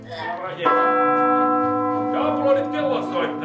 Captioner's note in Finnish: kirkon kello soi